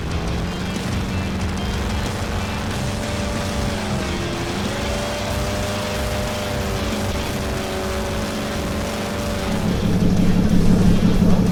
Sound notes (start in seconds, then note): 2.6 motor revving; 2.6 upbeat music